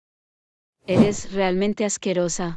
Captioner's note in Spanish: FX - Whoosh - 03